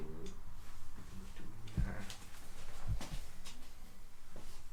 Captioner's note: mumbles to himself